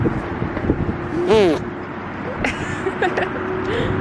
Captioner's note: blows raspberry; laughing